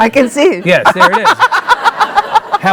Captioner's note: laughing